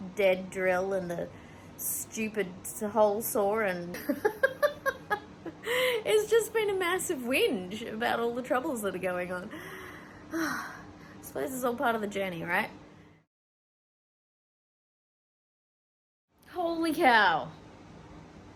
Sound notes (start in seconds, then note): 4.2 laughs; 9.6 resigned sigh